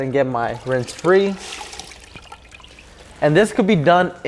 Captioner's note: water splashing